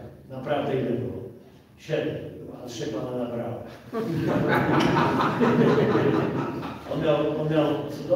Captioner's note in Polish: Śmiech z sali